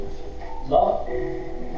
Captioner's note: speaks on the phone